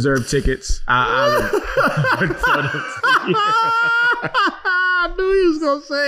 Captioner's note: laughing